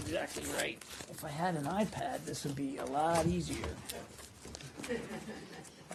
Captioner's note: laughter